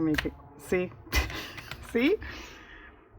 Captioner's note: laughs